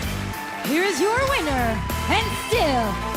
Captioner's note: bell ringing